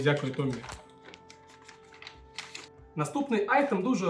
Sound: newspaper sounds

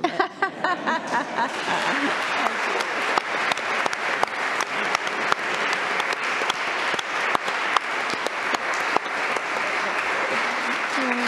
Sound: applause

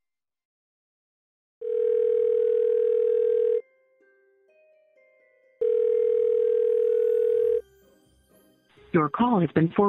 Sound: phone dialing

